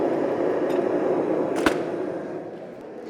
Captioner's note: oven door closes